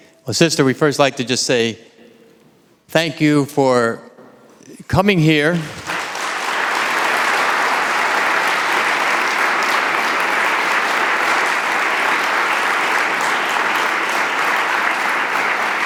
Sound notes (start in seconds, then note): 5.8 audience applauding